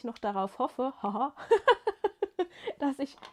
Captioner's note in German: gelächter